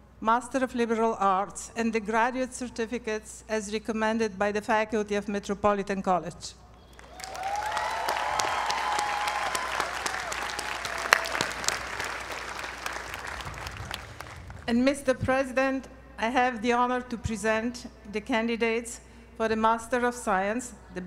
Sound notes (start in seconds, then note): 9.9 applause